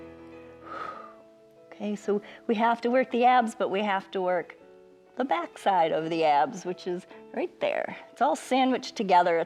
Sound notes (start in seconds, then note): 0.6 exhales